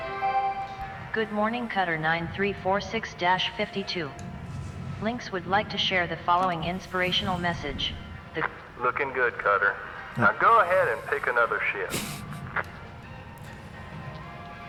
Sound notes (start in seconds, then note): 1.1 Hab Voice; 12.8 chuckles